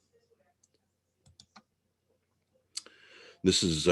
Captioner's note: mouse clicking